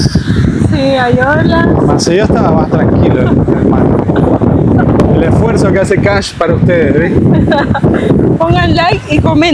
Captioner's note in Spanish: risas